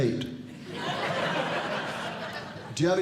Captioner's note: audience Laughing